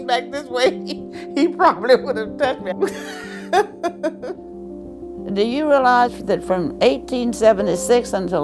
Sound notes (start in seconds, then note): 5.5 laughter; 5.7 soundbite of archived recording